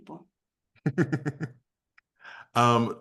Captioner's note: chuckles